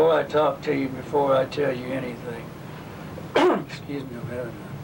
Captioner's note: coughs